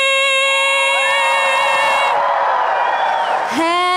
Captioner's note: applause and cheering